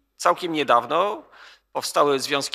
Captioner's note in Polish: none